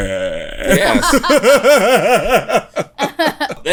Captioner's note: laughs